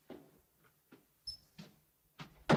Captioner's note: door squeaks open